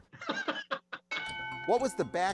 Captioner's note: laughs; bell dings